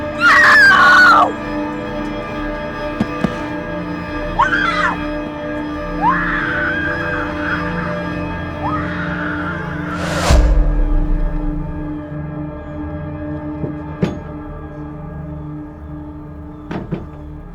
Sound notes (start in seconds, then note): 4.3 Shelby screams; 12.8 intense music